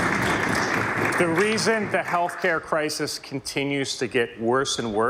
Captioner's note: applause